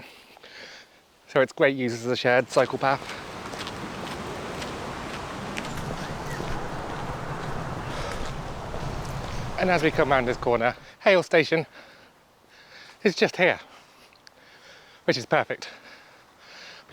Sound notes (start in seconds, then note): 2.5 footsteps